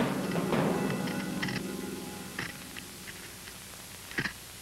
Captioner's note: knife carving stone makes 'teeth-on-edge' sound